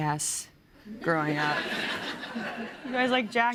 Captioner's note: laughter